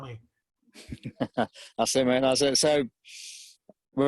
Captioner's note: laughs